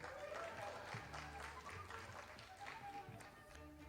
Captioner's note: audience applauding